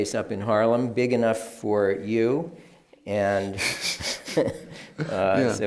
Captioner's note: laughs